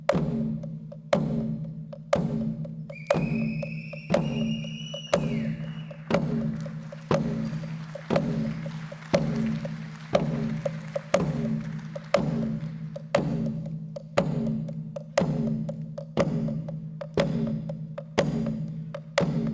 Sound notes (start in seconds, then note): 6.3 audience applauds; 10.6 rhythmic percussion continues to play